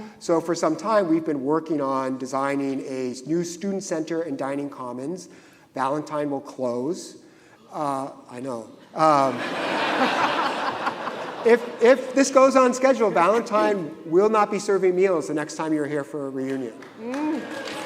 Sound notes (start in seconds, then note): 9.2 audience laughing